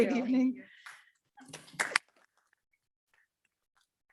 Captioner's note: group applauds